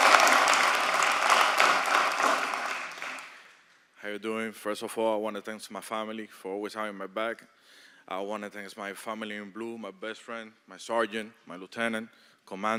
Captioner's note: applause